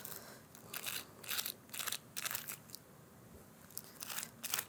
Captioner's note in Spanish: plástico de burbujas arrugado